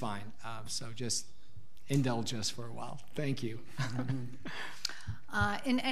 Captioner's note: laughing